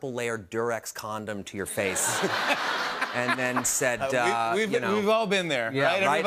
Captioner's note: laughter